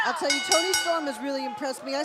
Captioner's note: bell ringing